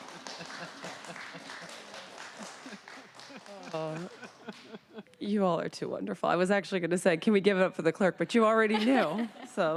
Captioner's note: applause; laughter